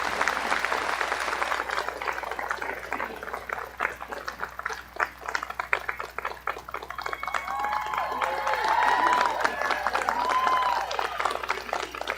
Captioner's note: applause